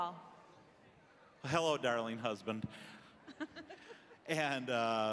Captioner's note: laughing